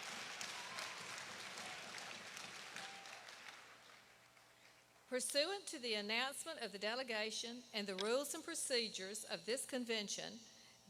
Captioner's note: applause